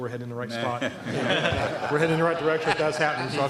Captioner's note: laughter